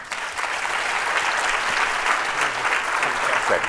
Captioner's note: applause